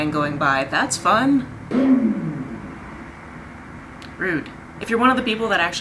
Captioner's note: loud rev of engine